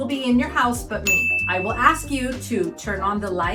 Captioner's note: bell dings